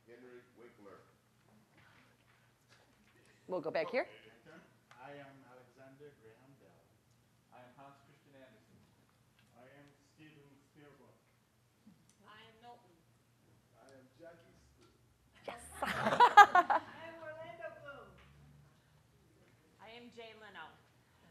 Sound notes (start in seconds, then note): 15.7 all laughing